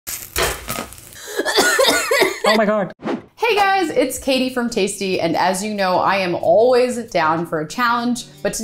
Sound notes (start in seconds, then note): 0.0 pan clinks; 1.2 coughing